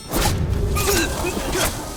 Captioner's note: grunting